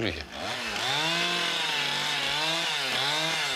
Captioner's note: chainsaw noises